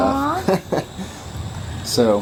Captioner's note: laughs